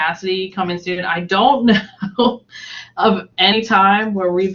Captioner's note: laughs